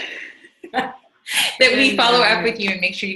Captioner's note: laughs